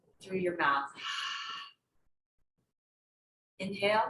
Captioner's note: exhales